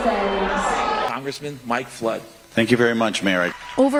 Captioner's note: shouting